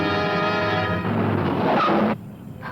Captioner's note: brakes screeching